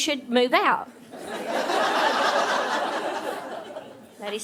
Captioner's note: audience laughing